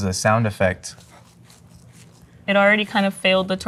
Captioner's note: burrito squelching